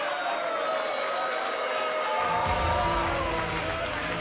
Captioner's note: cheers & boos